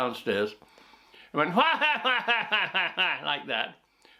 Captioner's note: laughs